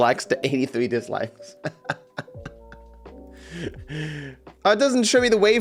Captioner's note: laughs